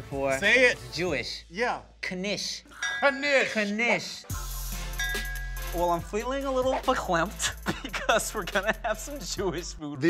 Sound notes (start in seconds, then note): 4.2 upbeat music; 6.7 speaks foreign language